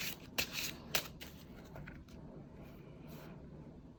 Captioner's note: drawing cards